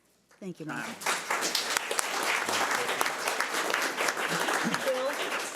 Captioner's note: audience applauds